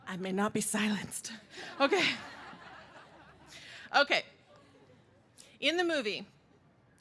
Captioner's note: laughter